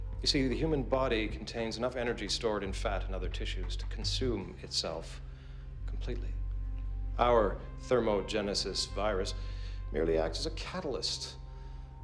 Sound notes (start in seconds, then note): none